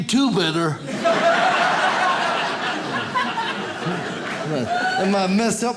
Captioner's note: audience laughs